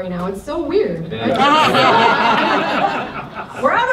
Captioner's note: laughter